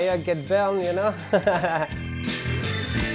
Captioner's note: laughs; upbeat music